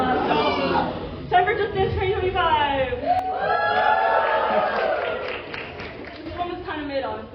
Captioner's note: applause